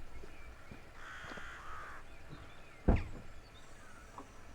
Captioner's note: crows cawing